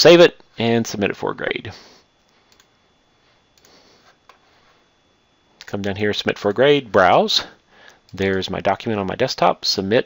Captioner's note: click